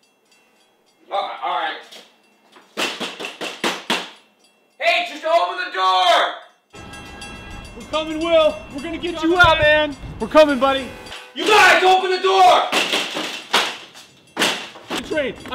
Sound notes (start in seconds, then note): 2.8 tapping door; 12.4 banging frantically